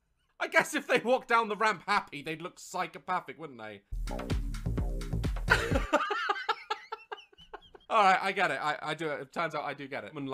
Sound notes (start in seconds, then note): 5.5 laughter